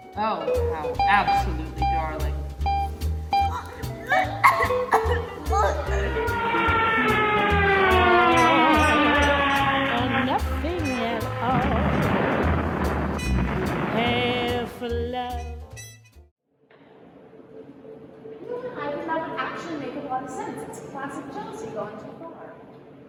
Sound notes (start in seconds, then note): 3.4 Amelia choking; 4.6 plane rapidly falling; 11.3 crash